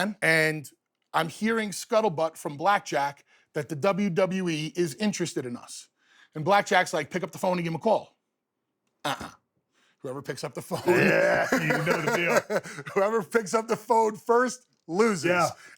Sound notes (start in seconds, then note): 10.8 laughs